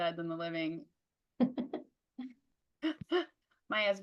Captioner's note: laughs